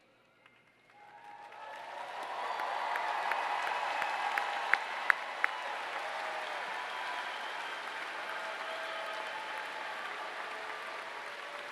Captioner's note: applause